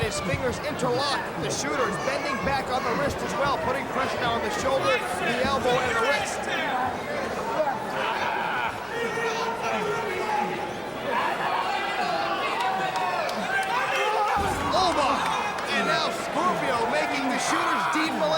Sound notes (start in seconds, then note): 0.3 crowd chatter; 9.9 crowd chatter